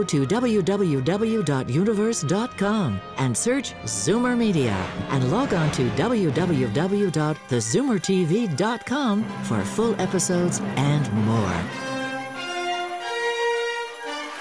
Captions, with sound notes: and log onto www.thezoomertv.com for full episodes and more. [dramatic music] [audience applauding]